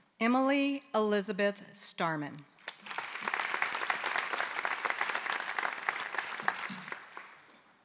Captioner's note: applause